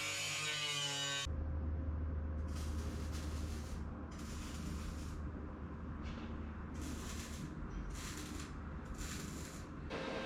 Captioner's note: distant welding noises